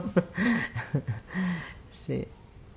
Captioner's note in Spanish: risas